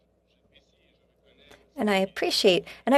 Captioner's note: speaking French